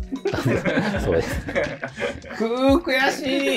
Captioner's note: laughing